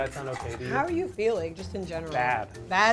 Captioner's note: knife scraping